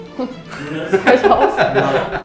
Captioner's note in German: Lachen